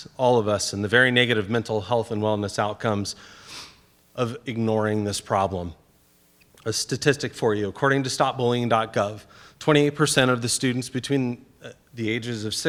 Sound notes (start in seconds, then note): 3.3 sniffs